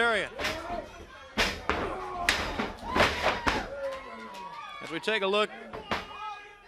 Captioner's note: crowd chatter